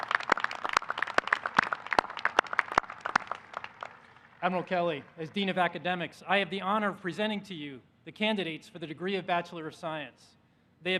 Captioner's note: applause